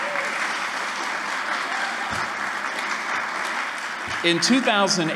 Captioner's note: cheering & Applause